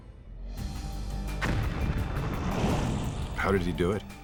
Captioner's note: light dramatic music; fire rustling